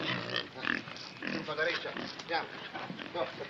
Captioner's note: speaking in italian